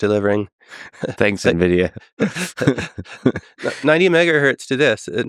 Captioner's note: Tim and Lex laughing